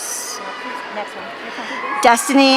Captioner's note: audience cheering